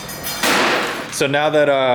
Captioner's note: bang